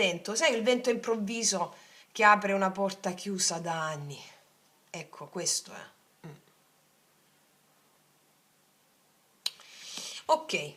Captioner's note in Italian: schiarire la voce